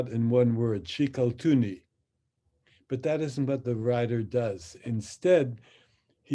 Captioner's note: speaks in Hebrew